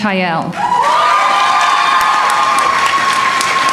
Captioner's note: applause